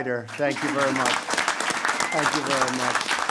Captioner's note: applause